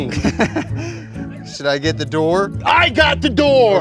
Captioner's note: laughs